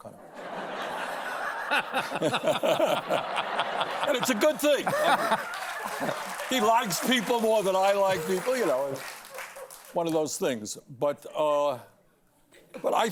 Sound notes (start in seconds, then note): 2.9 laughter; 3.6 applause